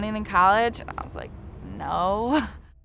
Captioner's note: laughs